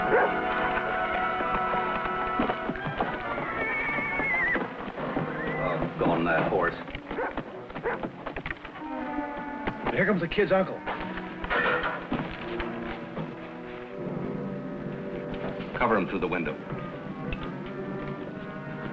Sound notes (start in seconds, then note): 4.3 horse whinnying; 7.8 dog barking; 12.0 dramatic music